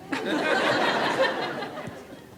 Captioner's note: laughter